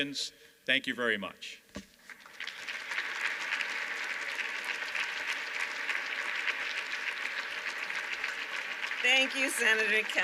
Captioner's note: applause